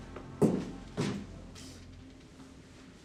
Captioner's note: footsteps